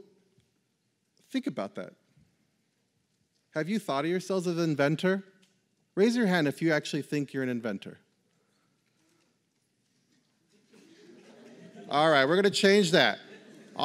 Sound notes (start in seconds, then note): 10.6 laughter